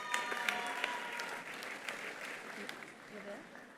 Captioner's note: attendees cheering; attendees applauding